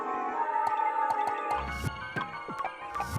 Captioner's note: popping